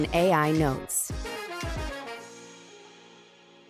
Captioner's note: applause